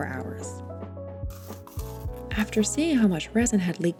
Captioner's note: foamcore rips